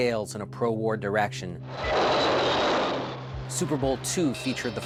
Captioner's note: engines roaring